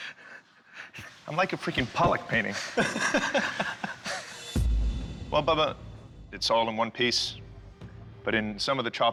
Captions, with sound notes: I'm like a freaking Pollock painting. [laughing] Well, Bubba. It's all in one piece, but in some of the chopping,